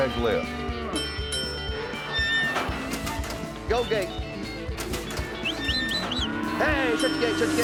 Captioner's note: ding, ding